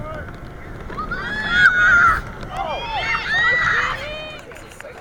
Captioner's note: excited screeching